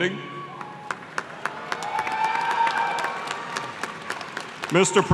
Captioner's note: applause